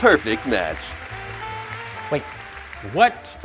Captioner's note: canned applause